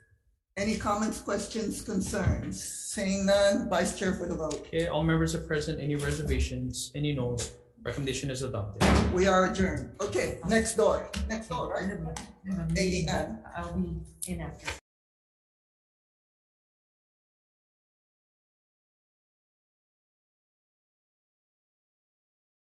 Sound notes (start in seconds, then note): 12.1 faintly speaking